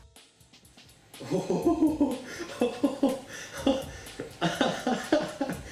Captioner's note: giggling noises